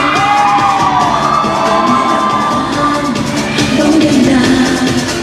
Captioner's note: cheering